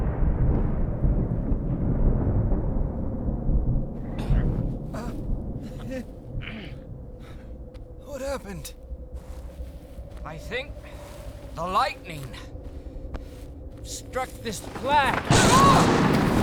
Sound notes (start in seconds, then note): 0.2 dark rumbling; 6.4 groans and grunts; 14.7 crash